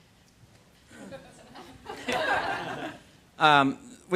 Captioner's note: scattered laughter